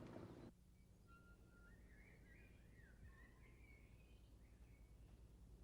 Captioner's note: birds chirping